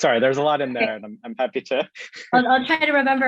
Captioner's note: chuckling